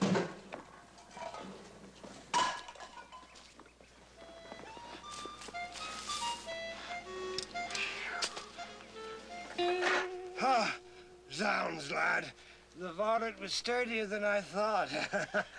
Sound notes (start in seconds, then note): 0.9 metal clangs